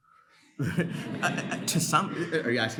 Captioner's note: audience laughs